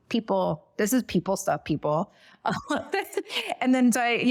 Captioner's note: laughs